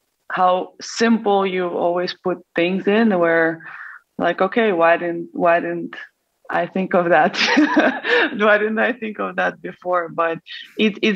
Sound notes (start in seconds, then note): 7.4 laughs